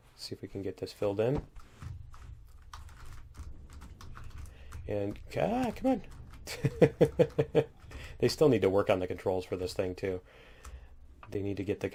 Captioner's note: laughs